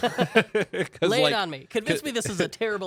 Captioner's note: laughing